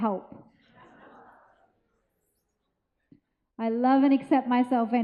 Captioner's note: audience laughs